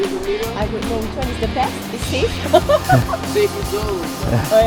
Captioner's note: laugh